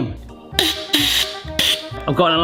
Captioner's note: nozzle hisses hollowly